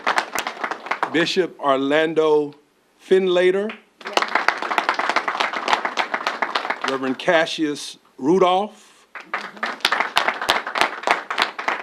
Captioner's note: applause